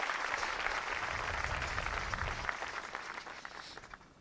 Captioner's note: applause